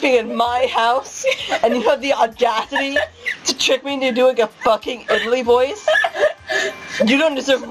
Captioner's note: laughing; continues laughing hysterically